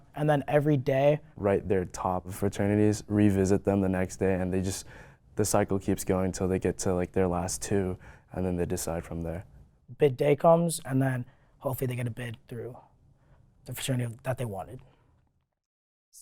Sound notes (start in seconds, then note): none